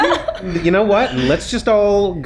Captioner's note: laughs